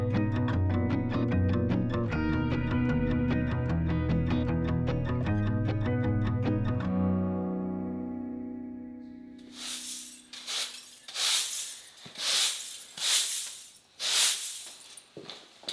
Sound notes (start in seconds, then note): 9.4 broom rustling; 9.4 metal clinking